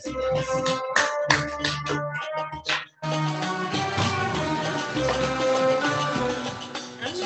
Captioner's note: applause